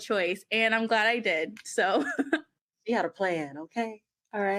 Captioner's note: laughs